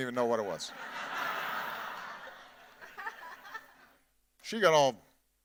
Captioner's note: audience laughing